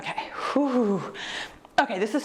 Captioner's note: exhales deeply